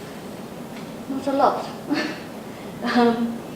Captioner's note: laughs